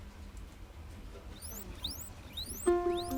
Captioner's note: guinea pig squealing; melancholic music